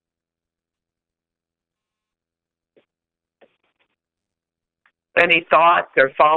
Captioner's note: silence